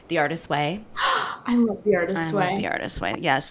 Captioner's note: gasps